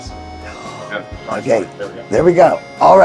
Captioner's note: gasps